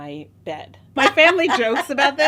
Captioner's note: laughing